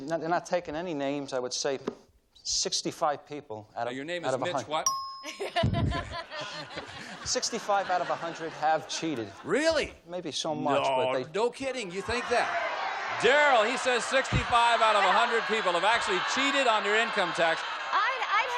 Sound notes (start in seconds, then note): 5.2 laughter; 12.0 audience calls out suggestions